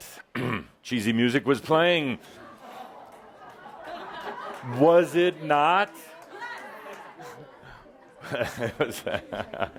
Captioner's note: audience responds “Oh!”